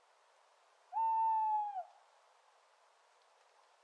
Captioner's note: bird cooing